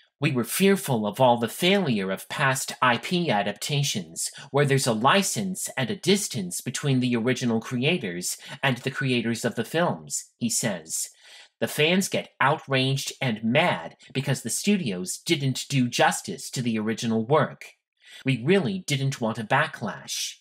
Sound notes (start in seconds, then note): none